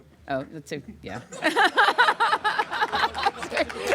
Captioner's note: laughter